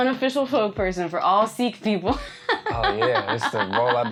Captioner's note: laughs